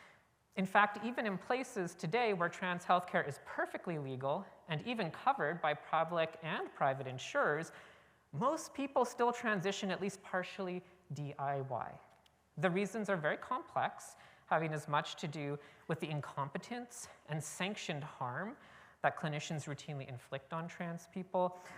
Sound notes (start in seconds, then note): none